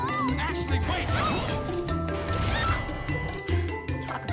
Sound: scream, metallic scraping

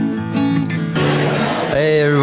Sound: audience chattering

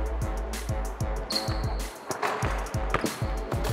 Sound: shoes squeak; ball bouncing

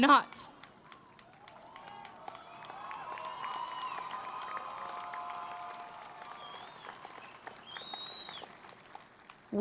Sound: cheering and Applause

